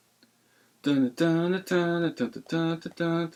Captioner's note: hums tune